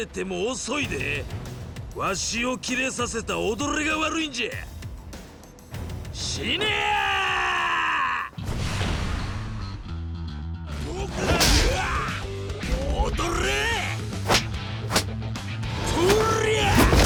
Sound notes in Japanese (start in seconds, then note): 6.6 叫び声; 10.9 うめき声